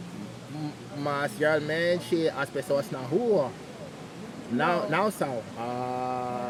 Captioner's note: speaking Portuguese